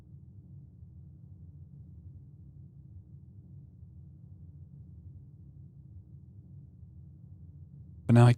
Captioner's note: silence